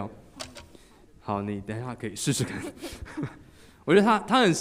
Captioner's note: laughing